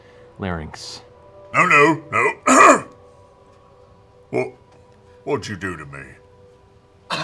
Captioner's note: clears throat; gasps